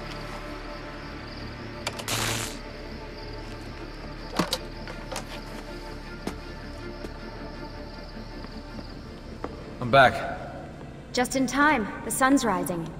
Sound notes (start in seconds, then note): 1.9 electric zap